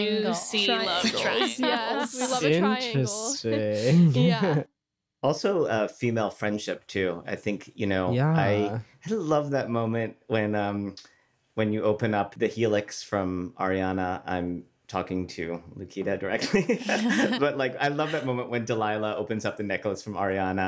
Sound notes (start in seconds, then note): 0.8 laughs; 16.3 laughter